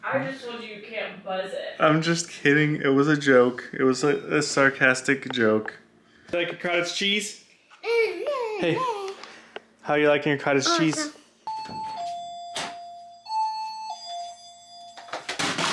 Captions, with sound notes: - I just told you you can't buzz it. - I'm just kidding. It was a joke. It was a sarcastic joke. Thank you, cottage cheese. Hey, how are you liking your cottage cheese - Awesome. (alarm goes off)